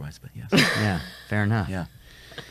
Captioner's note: laughs